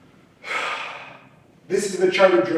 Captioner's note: sighs